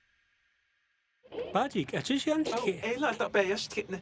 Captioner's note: speaking Navajo